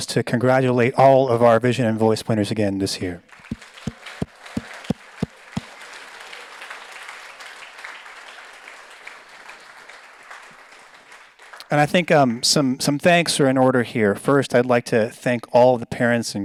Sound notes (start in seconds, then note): 4.0 audience applauds